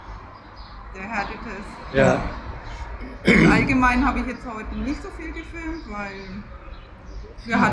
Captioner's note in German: räuspern